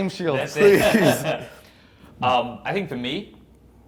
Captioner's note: both laugh